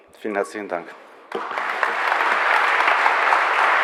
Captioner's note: applause